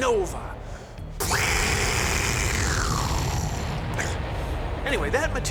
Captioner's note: imitates explosion